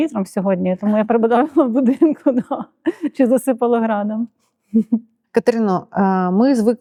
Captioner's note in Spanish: risas